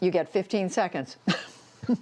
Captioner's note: laughter